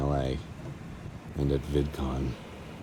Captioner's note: sad voice